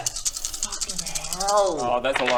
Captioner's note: ominous dice shaking